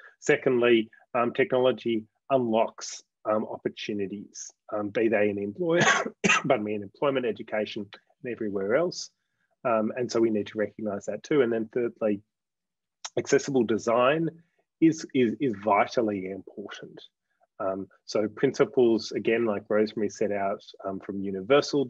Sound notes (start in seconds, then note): 5.7 coughs